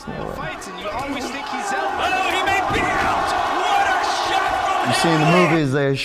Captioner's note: audience cheering; announcers chattering